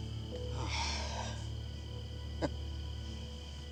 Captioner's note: sighs